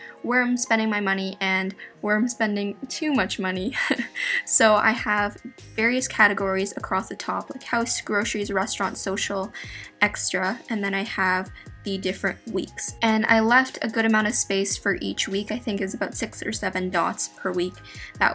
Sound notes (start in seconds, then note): 3.7 laughs